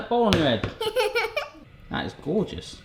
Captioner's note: laughs